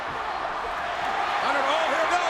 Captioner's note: audience cheers